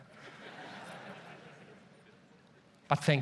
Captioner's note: audience laughs